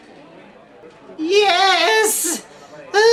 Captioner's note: exasperatedly